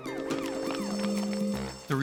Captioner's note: bell ringing